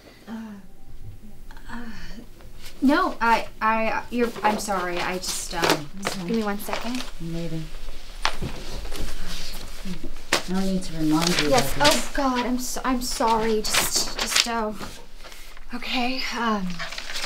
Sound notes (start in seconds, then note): 11.6 papers drop